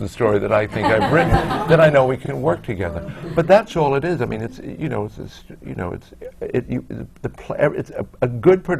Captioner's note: laughter